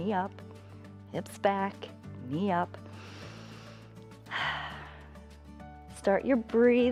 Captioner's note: inhales and exhales